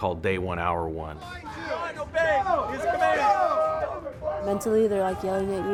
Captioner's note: yelling